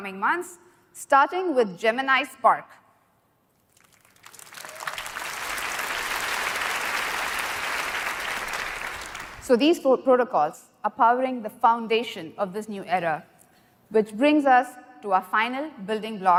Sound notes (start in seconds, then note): 3.6 applause